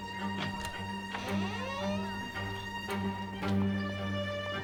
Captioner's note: door creaking; upbeat violin music